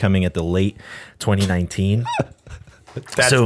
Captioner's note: laughter